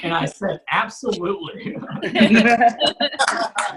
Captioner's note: audience Laughs